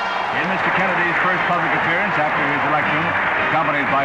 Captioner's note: newscaster